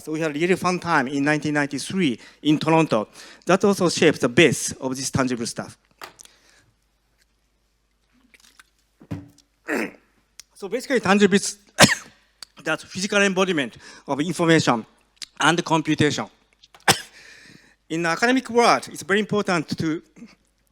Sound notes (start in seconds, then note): 9.6 clears throat; 11.8 cough; 16.8 coughs